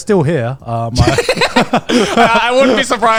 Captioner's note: speakers laughing